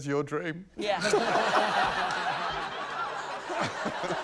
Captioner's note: laughter